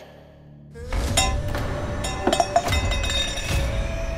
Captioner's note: glass clinking